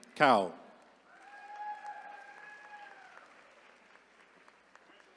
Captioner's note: attendees cheering